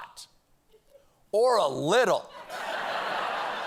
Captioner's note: laughter